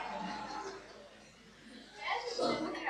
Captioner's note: laughter